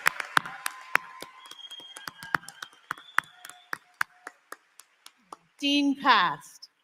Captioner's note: applause